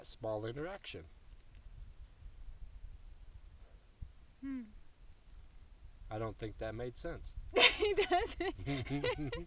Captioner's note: laughs